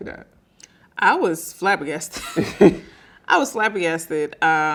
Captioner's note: laughing